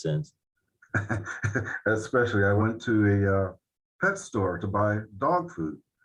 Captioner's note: laughing